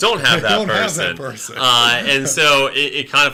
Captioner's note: laughing